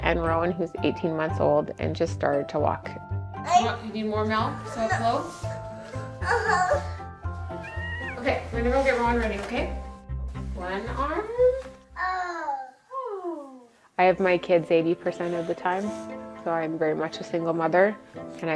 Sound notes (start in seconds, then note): 7.5 cat meows; 11.9 child vocalizes; 12.0 parent vocalizes